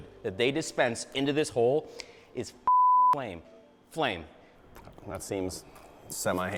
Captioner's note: beep